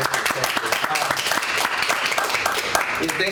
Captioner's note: applause